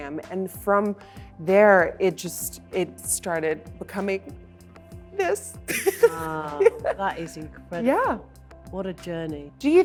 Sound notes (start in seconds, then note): 5.7 laughs